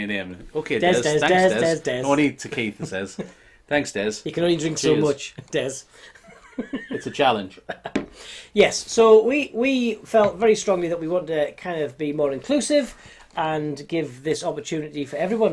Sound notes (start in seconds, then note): 6.2 laughing